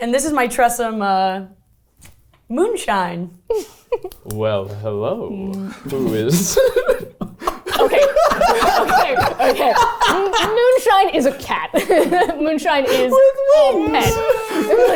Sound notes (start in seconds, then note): 7.3 everyone laughing